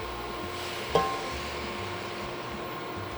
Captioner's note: liquid pouring